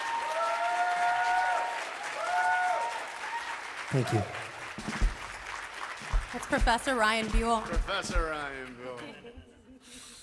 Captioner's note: applause